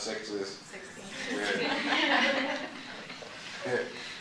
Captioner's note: laughing